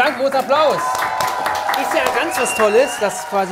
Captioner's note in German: Jubel, Applaus